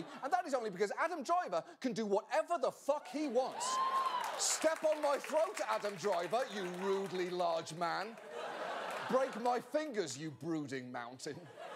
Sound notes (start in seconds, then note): 3.0 audience woo's